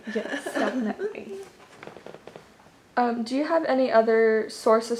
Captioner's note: laughs